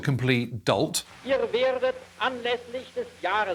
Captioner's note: archive German speech